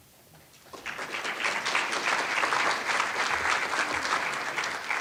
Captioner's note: audience applauds